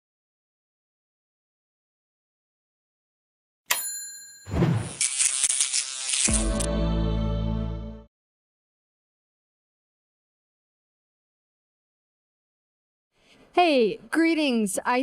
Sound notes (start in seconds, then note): 3.7 bell dings; 4.9 electricity crackles